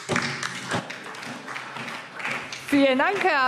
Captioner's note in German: Beifall SPD